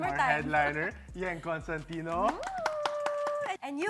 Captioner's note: claps